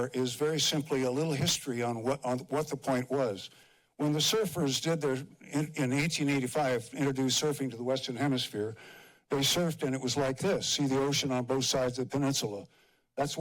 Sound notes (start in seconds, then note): none